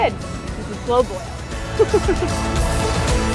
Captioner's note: laughs